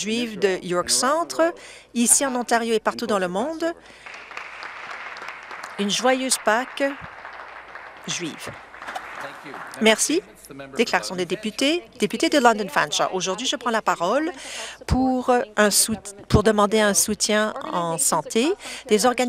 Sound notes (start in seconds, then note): 9.0 some Applause